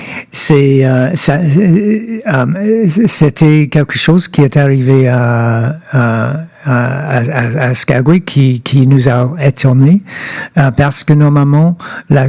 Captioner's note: speaking French